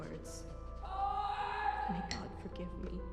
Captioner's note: woman yelling